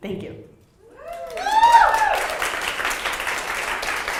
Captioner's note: applause